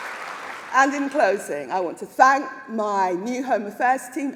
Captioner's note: applause